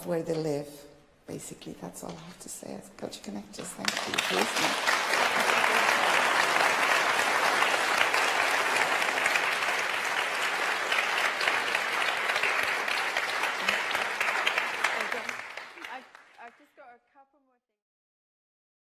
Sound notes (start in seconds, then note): 3.6 applause